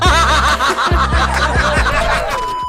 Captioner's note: laughter